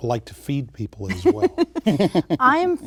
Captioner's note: laughter